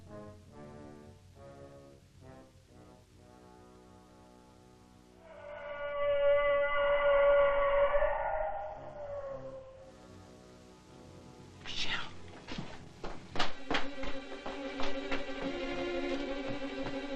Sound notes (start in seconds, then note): 5.2 howling